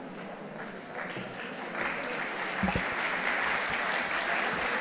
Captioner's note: audience applauding